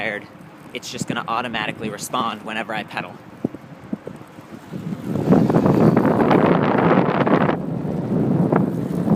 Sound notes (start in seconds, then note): 5.4 wind noise